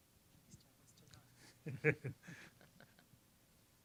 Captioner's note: scattered chuckling